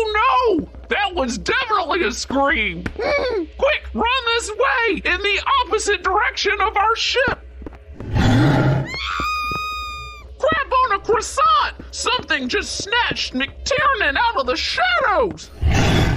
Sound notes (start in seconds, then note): 8.0 growl. Scream